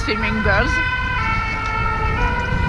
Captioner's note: siren keeps blaring